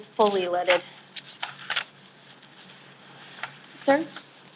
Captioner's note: papers flipping